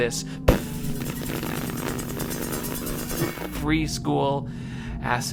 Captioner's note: rumbling noises